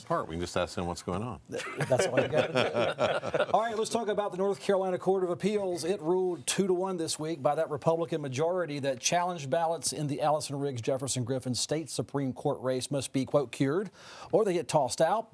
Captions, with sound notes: - Best part, we can just ask them what's going on. [panel laughing] - All right, let's talk about the North Carolina Court of Appeals. It ruled two to one this week by that Republican majority that challenge ballots in the Allison Riggs Jefferson Griffin State Supreme Court Race must be quote, "cured," or they get tossed out